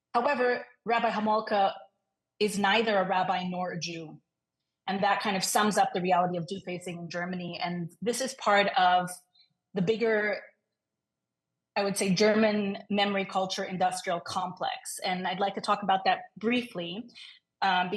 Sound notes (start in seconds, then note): none